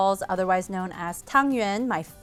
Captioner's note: speaks foreign language